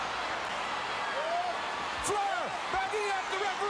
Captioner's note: crowd cheering